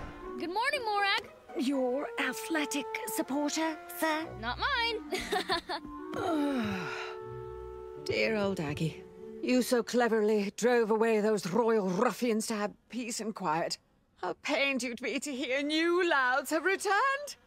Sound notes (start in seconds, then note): 5.0 laughing; 6.1 groan